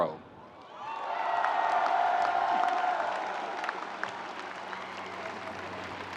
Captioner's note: audience cheers and applauds